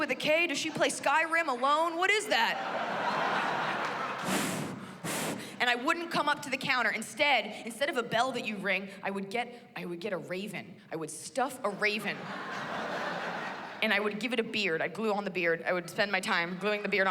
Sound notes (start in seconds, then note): 4.1 blows